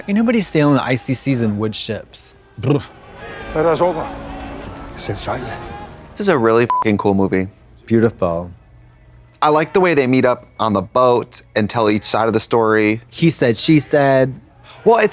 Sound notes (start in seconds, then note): 6.6 beep